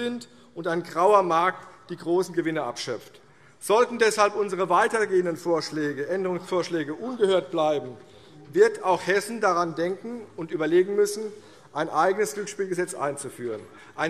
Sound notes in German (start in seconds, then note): none